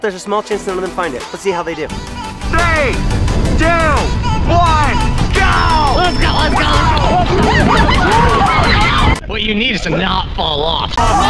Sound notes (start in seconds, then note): 6.4 all screaming